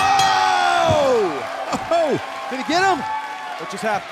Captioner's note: bell ringing